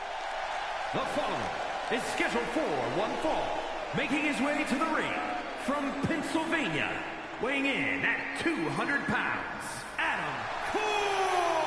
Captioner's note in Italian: Applauso; Applauso